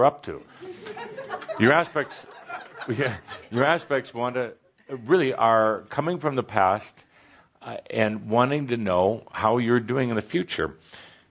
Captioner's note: laughter